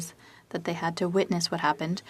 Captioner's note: speaking French